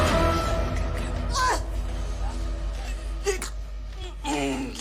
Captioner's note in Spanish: Quejidos